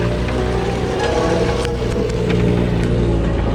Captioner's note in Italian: Suono misterioso